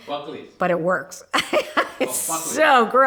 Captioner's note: laughs